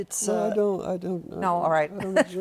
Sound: chuckles

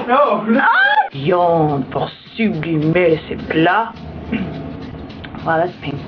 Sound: coughs

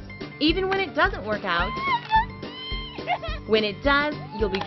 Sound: laughs

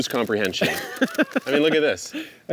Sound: laughs

